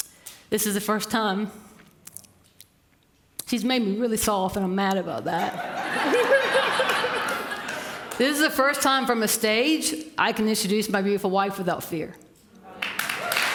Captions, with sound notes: the first time - she's made me really soft and I'm mad about that [Laughter]. This is the first time from a stage I can introduce my beautiful wife without fear. [Applause]